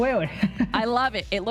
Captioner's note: laughs